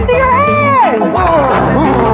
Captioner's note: gruntg